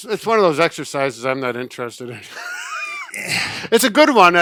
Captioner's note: laughing